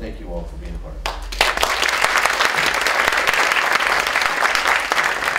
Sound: applause

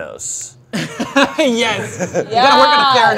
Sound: laughs

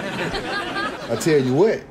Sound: laughs

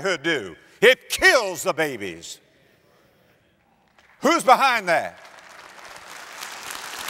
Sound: audience applause

